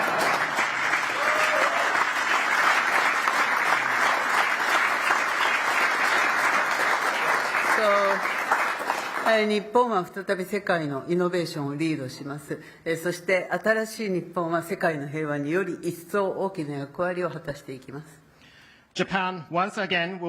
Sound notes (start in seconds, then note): 0.0 applause; 9.8 speaking Japanese